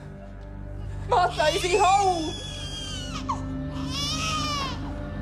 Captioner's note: baby crying